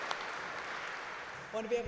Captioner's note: round of applause